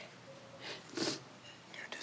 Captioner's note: sniffling